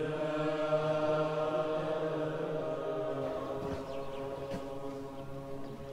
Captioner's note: monks praying